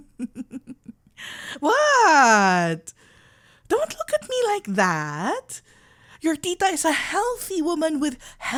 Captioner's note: playful